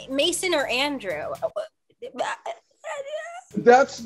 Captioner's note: raspy sounds